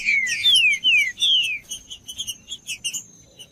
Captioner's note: trinca ferro cantando